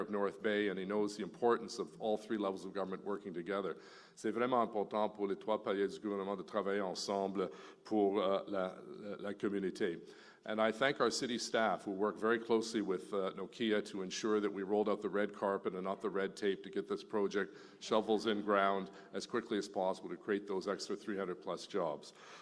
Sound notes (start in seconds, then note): 6.1 speaking French